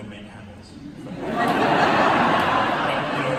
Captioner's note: laughter